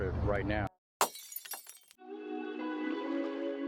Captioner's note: glass shatters; serene music